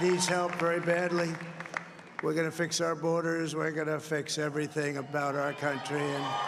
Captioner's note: cheers and Applause